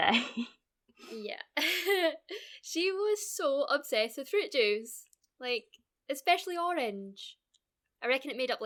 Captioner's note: laugh